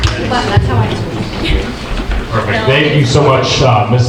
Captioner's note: audience murmuring